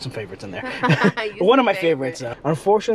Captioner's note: chuckle